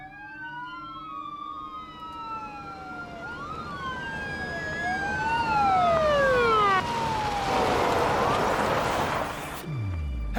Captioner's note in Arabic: صفارات الإنذار، تقترب; صفارات الإنذار تقترب، تقترب